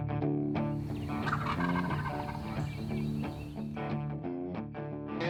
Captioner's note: turkey gobbling